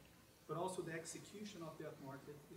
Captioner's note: voiceover